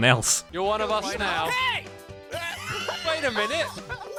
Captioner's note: wheezing laughing